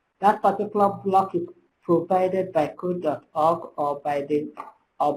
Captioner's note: slurred